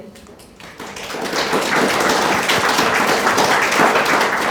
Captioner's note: audience applauding